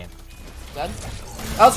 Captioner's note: gun firing